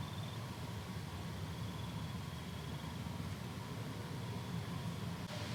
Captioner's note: crickets chirping continues